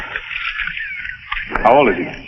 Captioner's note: birds chirping